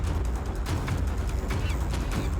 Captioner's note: monkeys chittering